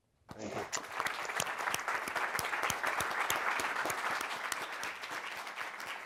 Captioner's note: applause